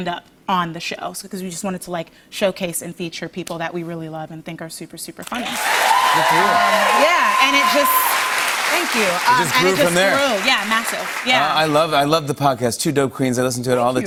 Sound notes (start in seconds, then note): 5.4 cheers and applause